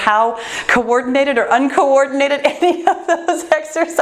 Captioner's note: laughs